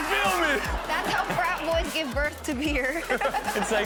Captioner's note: laughs